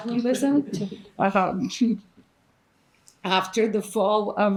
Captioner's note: participants laughing